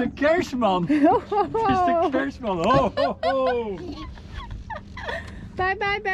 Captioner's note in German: alle lachen